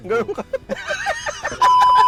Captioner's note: both laughing